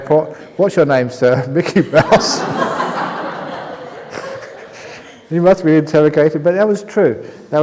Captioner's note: laughter